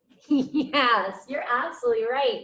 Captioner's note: laughs